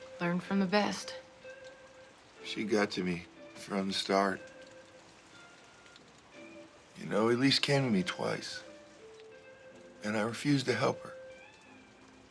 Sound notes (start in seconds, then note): none